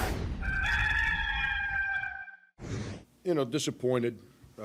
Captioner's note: cock crowing